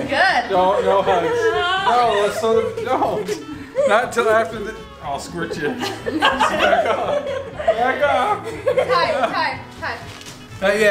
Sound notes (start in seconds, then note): 5.0 people laughing